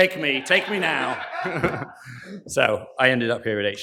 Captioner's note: laughter